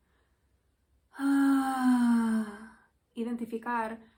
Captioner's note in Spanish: suspiro